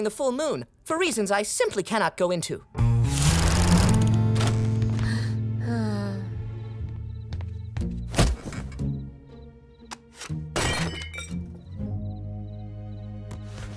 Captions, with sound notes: for reasons I simply can not go into. [sighing] [clanking]